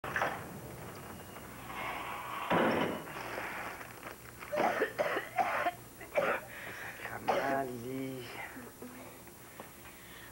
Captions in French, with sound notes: (toussotements) Sacrament Lili!